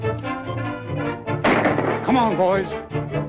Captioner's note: gunshot